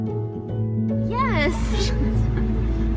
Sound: laughs

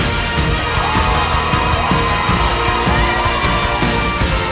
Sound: crowd cheering

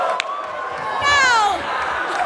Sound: wild cheering and enthusiasm

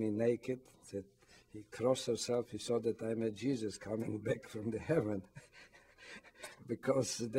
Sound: laughs

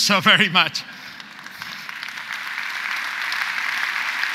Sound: audience applauds

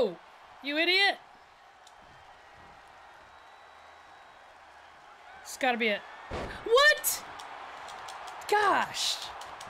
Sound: applause

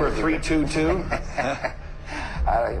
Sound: chuckling

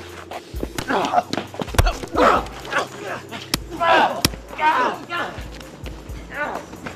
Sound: blows thudding; men groaning

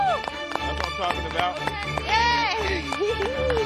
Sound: laughing

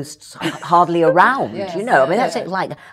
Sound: laughs

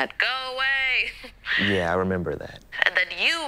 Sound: laughing

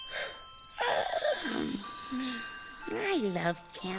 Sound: Tobee yawning

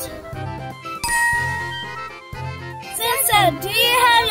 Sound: bell dings

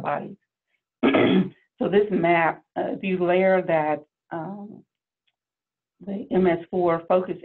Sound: cough

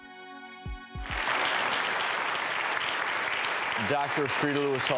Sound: audience applauding

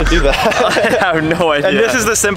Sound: laughs

